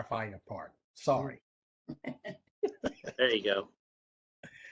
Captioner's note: laughter